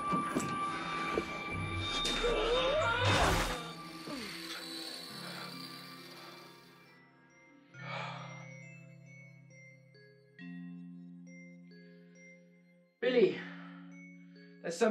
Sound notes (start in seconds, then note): 2.3 yelling; 8.1 music-box music